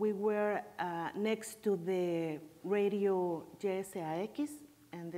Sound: speaking in foreign language

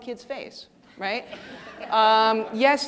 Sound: audience laughing

